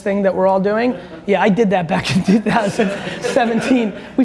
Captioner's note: audience laughs